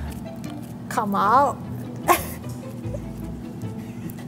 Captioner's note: laughs